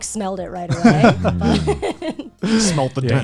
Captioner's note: all laughing